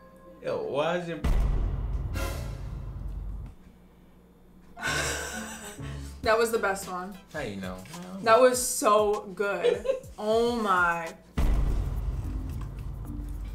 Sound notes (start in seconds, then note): 1.2 suspenseful music; 4.8 laughs; 9.6 mom chuckles; 11.4 suspenseful bangs